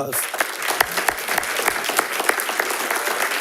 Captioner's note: all clapping